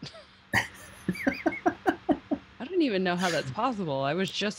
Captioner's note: laughing